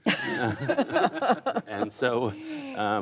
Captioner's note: laughter